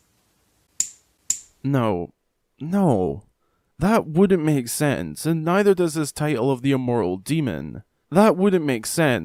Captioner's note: light bulb flicker